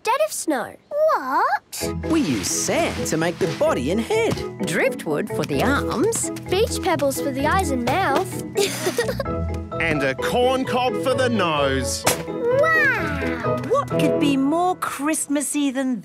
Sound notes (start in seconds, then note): 8.5 laughing